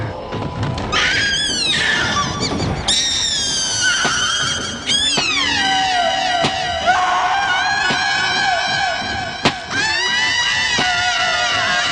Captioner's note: screaming